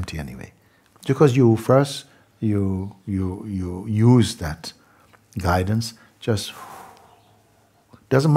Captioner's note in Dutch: lange uitademing